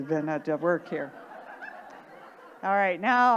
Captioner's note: audience laughing